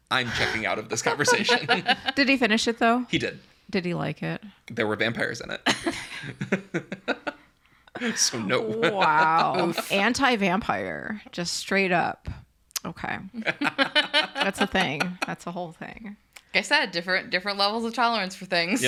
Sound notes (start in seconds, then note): 1.0 laughs; 6.0 laugh; 13.3 laugh